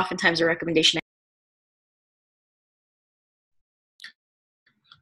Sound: audio cuts out

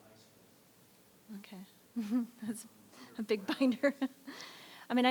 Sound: laughs

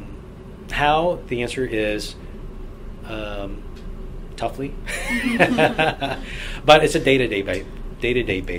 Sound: all laugh

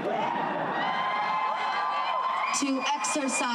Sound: crowd cheering

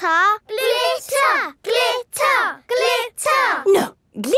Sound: chanting

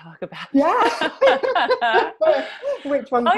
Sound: laughs

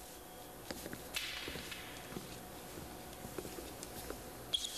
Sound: footsteps

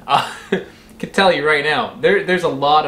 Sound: laughs

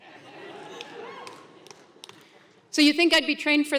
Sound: applause

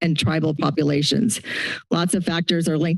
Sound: inhales

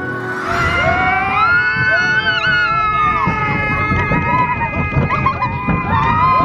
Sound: screaming

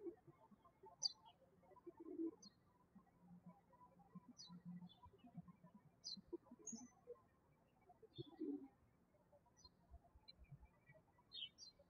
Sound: birds chirping

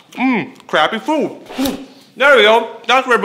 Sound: spits

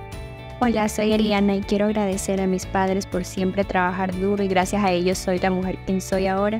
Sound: woman with brown hair speaking Spanish

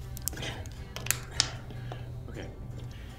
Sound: bottle cracking

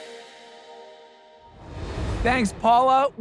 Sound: transition whooshing

